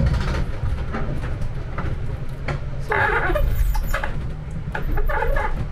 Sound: rope squeak

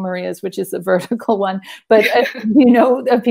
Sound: women chuckle

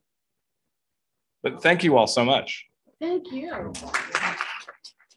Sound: applause

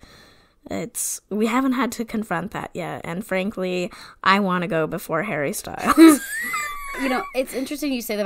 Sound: wheeze laughs

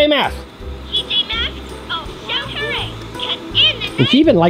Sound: toy talking

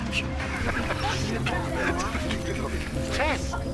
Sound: people chatter and laugh

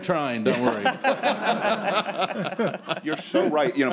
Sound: laughter

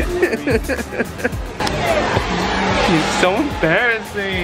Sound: laughter

